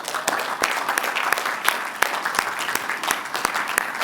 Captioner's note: applause